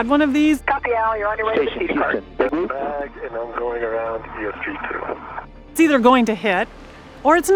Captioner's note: radio noise